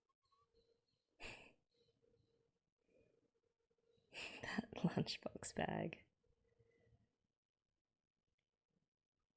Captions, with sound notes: [chuckles] That lunchbox bag.